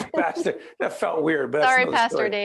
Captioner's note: laughing